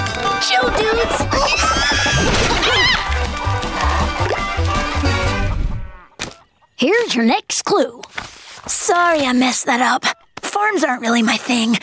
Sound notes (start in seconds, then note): 1.3 squawking; 2.5 screaming